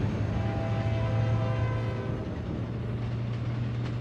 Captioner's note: train horn blowing